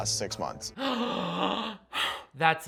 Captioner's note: gasps